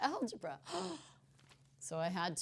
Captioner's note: gasp